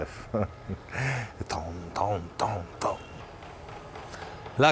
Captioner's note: imitates bell's sound